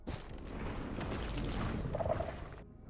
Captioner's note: warden noises